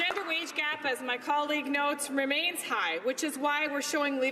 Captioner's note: some Applause